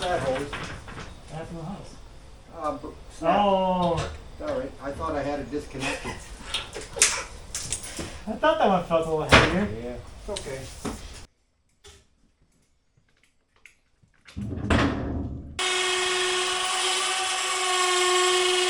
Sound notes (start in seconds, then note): 14.3 wood bangs; 15.6 machine whirs